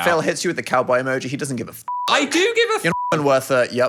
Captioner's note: beep